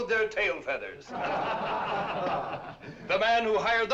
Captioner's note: general laughter